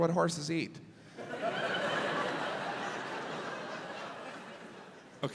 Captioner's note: audience laughs